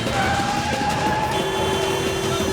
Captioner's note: tires squealing, horn honks